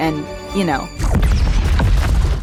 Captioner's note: explosion